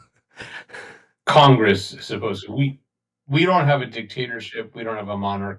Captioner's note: laugh